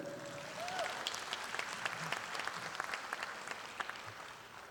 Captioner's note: audience applauding